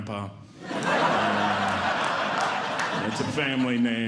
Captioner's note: audience Laughing